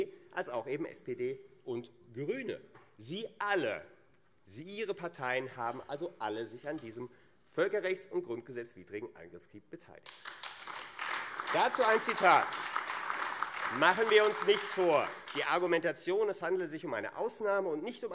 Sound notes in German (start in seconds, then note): 10.0 Beifall AfD